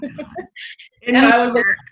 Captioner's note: voice muffled